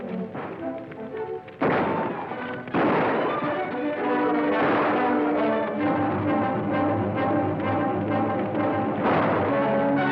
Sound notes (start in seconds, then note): 1.6 guns firing; 1.6 dramatic music